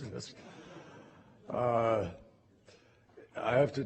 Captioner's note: laughter